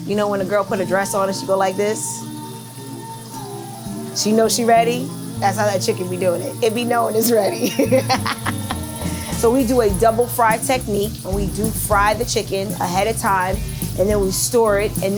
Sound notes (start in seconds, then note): 7.6 laughs